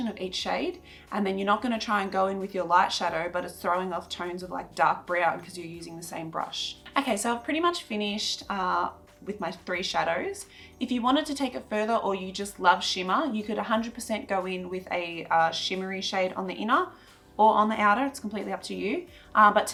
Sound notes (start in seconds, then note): none